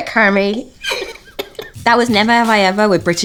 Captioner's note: both laugh